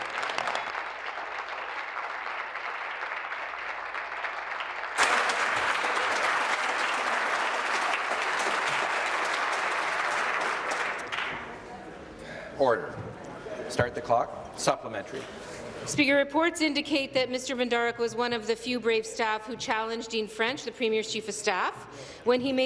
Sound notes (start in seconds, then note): 4.9 applause